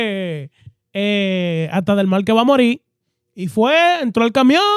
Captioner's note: speaking In Foreign Language